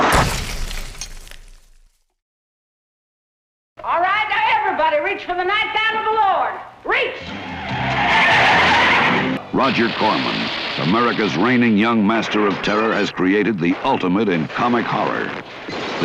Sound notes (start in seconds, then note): 0.0 glass shattering; 0.1 shots ringing out; 7.2 tires squealing